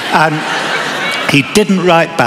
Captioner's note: laughter